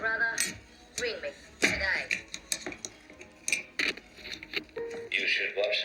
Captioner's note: receiver clicks